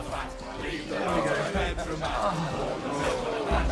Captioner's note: jackson laughing